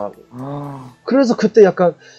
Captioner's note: gasp